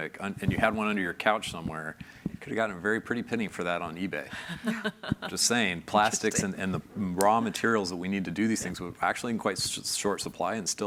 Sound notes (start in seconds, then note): 4.3 chuckles